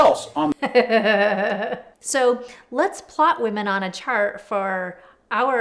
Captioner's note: laughs